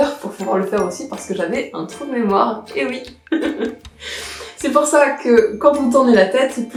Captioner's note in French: rire